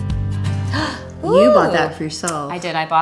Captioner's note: Kirsten gasps